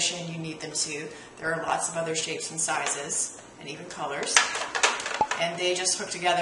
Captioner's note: pop